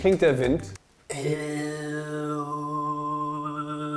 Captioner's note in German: Tiefer, gleichbleibender Ton